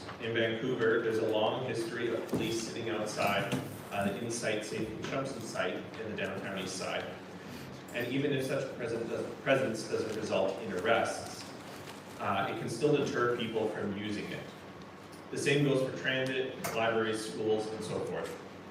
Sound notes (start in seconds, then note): none